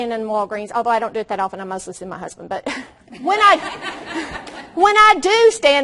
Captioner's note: audience laughs loudly